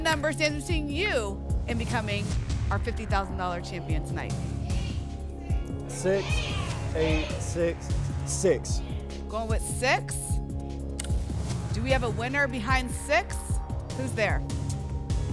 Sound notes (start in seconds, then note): 5.9 audience shouting numbers